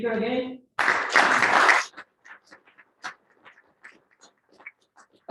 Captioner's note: applause